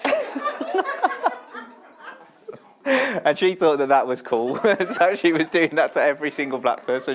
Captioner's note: laughter